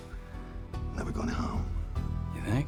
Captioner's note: scottish accent